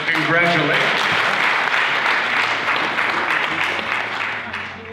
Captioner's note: audience applause